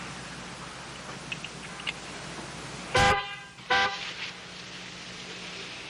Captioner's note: car horn